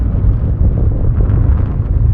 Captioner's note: engine roaring